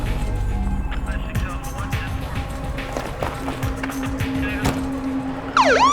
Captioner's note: man On Radio; siren blares